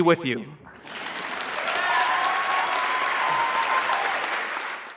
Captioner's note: applause